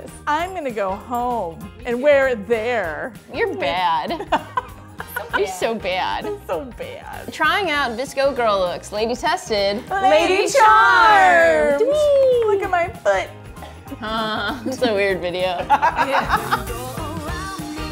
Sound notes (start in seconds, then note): 4.2 laughs; 10.3 group Shouting; 15.4 laughs; 16.3 upbeat pop music